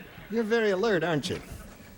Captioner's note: laughter